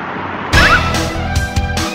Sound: fighting music; screams

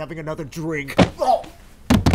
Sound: thwap!

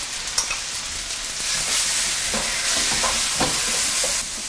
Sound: fried rice sizzling

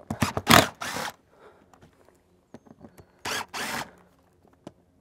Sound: power tool whirring

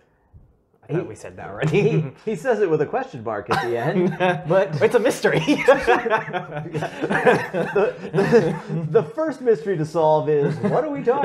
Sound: laugh

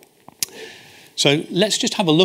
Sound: smacks lips

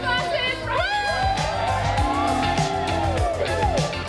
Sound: cheering

